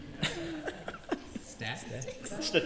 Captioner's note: laughter